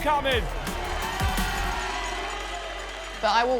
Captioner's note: crowd cheering